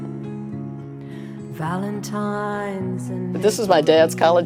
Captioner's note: recording fades